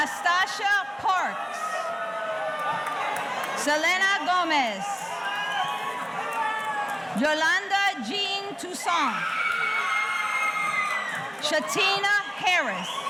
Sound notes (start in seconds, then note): 0.0 audience cheering; 8.8 audience cheering